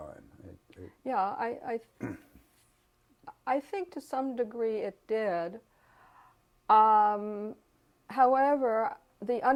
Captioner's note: cough